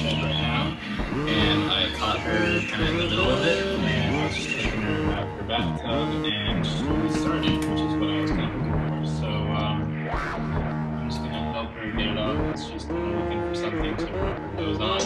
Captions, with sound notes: [Buzzing stops] Office memorandum. Walter Neff to Barton Keyes, Claims Manager. Los Angeles, July 16, 1938.